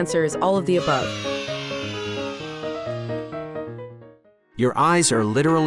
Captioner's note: intriguing music; children cheering